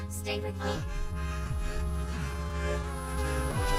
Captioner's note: static blaring